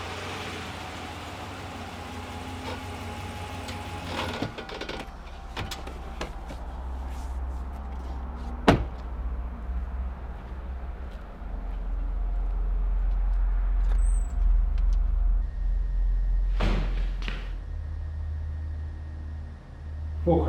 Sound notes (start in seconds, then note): 0.3 truck engine humming; 8.6 truck door slams; 14.4 door squeaks; 18.2 suspenseful music